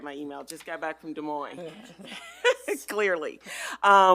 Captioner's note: laughs